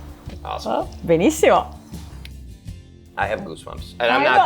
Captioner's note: speaking in foreign language